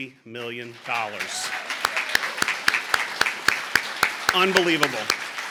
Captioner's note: applause